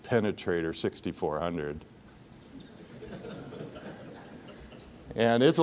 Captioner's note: audience laughing